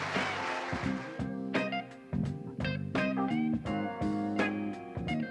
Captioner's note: audience applauding; blues